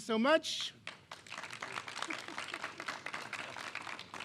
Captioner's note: clapping